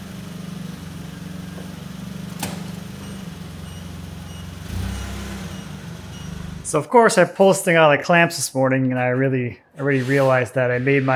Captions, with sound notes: (forklift beeping) So, of course, I'm posting all the clamps this morning and I already realized that I made